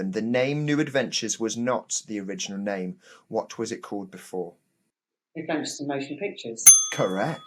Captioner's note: bell dings